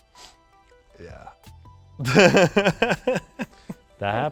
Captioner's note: laughs